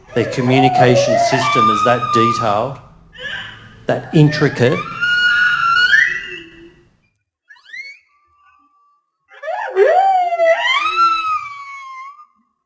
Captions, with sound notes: Their communication system is that detailed, that intricate. (whale vocalising)